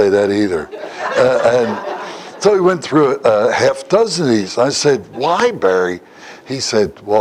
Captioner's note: Смех